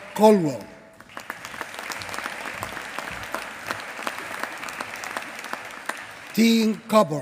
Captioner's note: applause